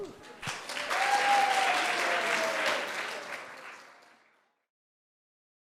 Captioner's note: audience cheering and applauding